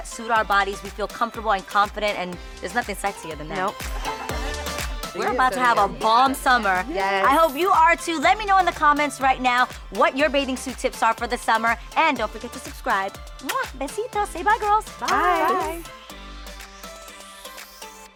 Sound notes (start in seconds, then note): 4.6 upbeat music; 13.0 kisses